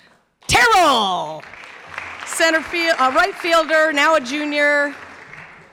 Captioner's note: clapping